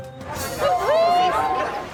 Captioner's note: whooping